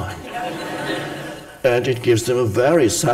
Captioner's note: audience laughs